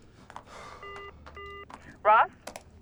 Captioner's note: beeping